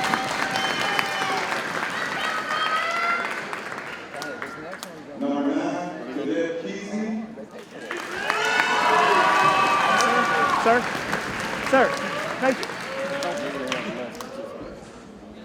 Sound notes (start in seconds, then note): 7.6 audience cheers and applauds